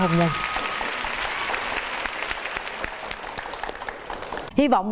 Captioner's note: applause